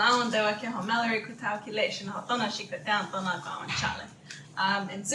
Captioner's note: Speaking in Zuni